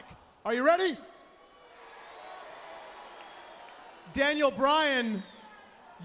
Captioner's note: crowd cheering